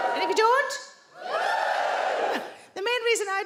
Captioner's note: audience woos